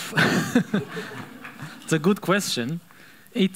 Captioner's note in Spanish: Risa de la audiencia